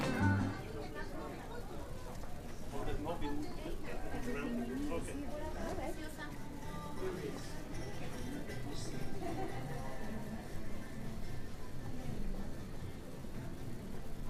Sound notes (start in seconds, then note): 1.5 people chattering indistinctly